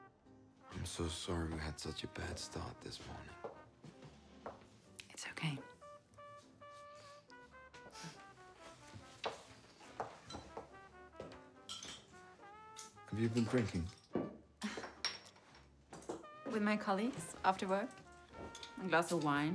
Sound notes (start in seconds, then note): 7.5 chuckles; 14.6 chuckles